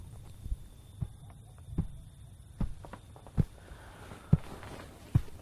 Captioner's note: footsteps approaching